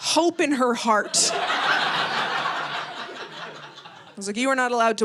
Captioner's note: audience laughing